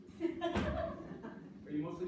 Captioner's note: female laughing